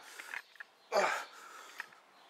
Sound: grunts

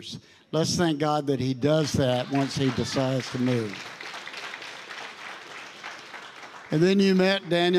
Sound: congregation applauding

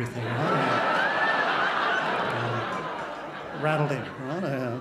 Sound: crowd laughs

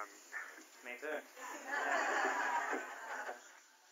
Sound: laughter

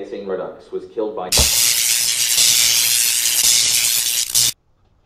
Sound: electricity noises

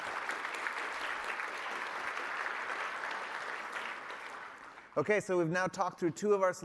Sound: applause

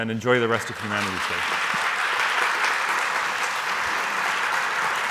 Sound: audience applauding

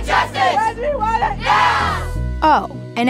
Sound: crowd

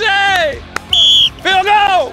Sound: whistle blowing

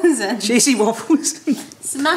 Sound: chuckles

